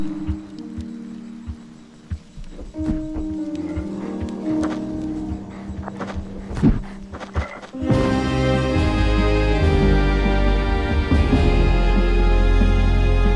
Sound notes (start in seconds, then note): 3.3 creature croaking; 7.8 dramatic music